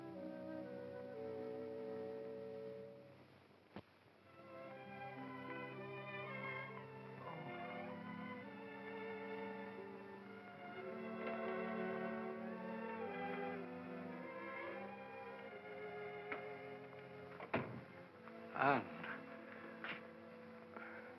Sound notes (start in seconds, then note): 0.2 sentimental music; 17.2 doors close